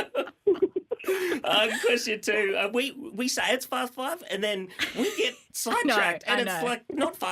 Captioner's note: laughter